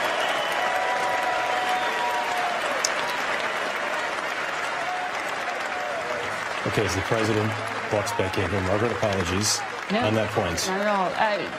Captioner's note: cheers and applause